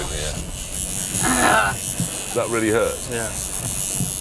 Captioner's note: groans